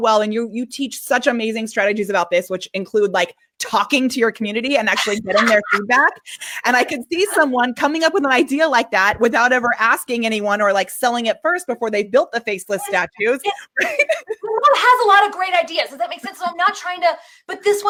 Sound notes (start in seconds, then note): 4.8 laughing; 12.8 laughing